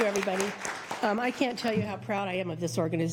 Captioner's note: applause